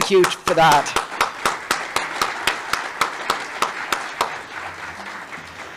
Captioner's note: applause